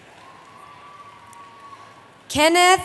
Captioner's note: cheering